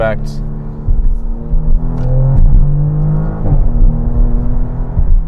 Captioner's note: engine revving